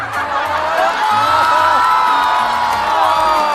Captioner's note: gossiping